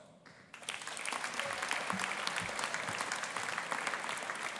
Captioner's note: audience applauding